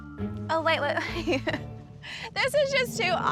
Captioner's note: chuckles